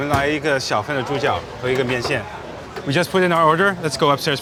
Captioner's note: man speaking foreign language